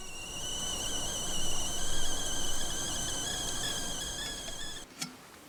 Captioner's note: tea kettle whistling